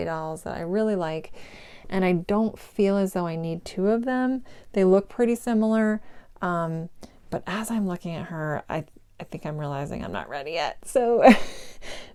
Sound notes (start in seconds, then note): 11.2 giggle